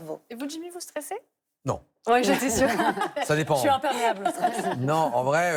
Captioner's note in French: rires